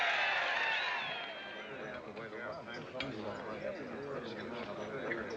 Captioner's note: murmuring, Chattering